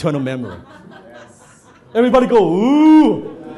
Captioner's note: audience laughs